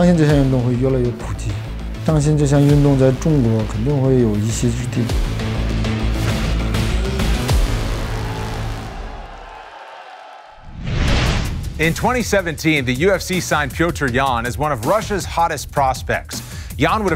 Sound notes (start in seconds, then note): 6.0 dramatic instrumental music; 9.3 crowd cheering